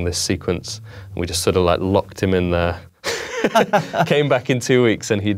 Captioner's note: laughing